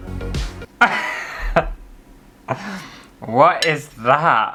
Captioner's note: laughter